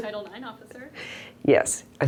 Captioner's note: voiceover